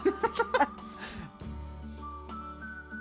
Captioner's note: both laughing